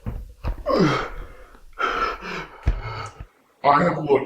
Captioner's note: Greg gasping